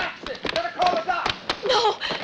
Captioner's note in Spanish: llora